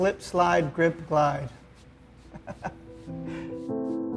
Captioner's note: laughs